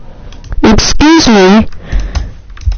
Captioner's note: text to speech machine code tone and voice